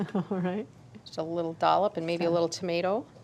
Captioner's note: chuckles